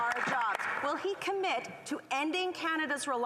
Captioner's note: applause